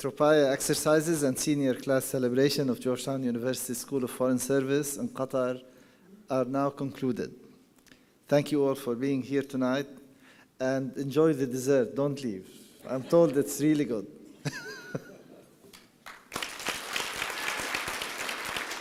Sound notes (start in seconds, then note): 14.4 laughing; 15.7 applause